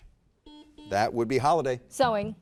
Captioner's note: buzzer beeps